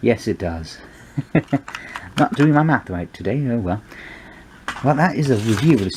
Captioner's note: ha ha